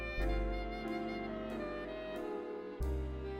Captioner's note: none